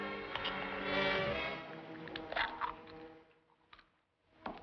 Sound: clam scraping

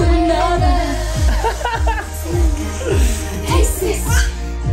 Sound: laughing

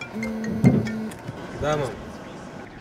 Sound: phone ringing

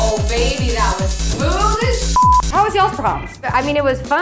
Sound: techno music; beep

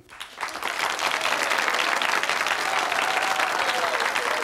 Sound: audience cheers

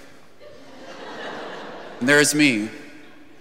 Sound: congregation laughing

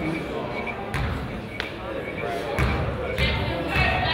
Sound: crowd chatters

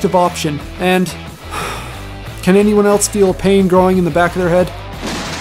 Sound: sigh

